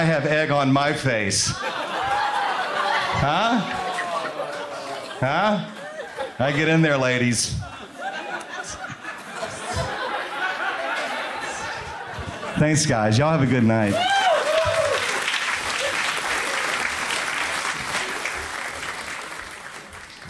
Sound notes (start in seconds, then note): 2.3 crowd laughs; 7.4 laughter; 14.1 applause